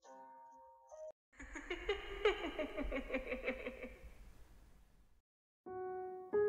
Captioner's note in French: Rire